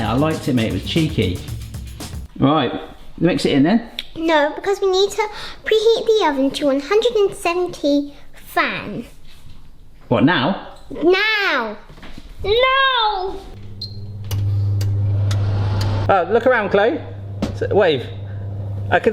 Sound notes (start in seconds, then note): 13.5 fan hums; 13.6 oven bleeps